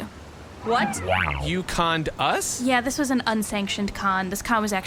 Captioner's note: disbelieving